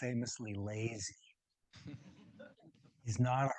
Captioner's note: audience giggles